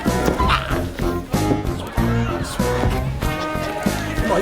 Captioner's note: Adam groans; quirky jazz music